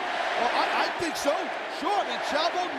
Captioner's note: spectators cheering